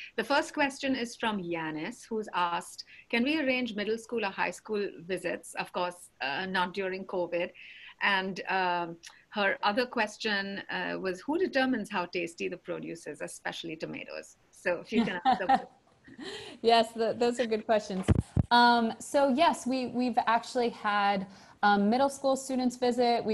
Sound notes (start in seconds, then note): 14.9 laughs